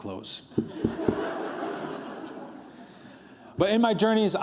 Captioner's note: laughter